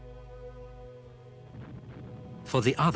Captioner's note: explosions booming